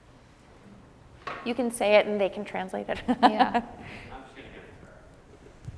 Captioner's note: laughs